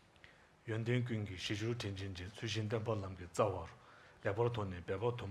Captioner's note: speaking in Tibetan language